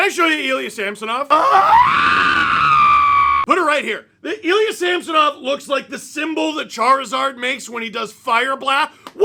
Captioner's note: guttural scream